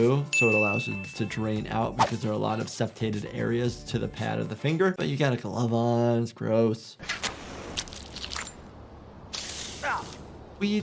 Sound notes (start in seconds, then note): 8.0 flesh squelching; 8.9 flesh hisses; 8.9 lighter clinks